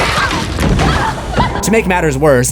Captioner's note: screams